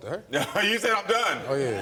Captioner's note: chuckles